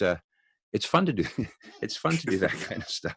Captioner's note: chuckles